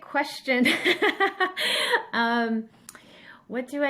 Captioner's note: laughs